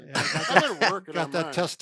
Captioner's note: laughs